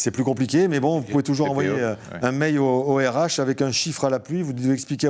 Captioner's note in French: raclement de gorge